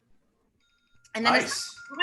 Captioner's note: alarm rings